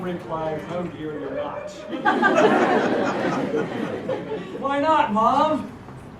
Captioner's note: laugh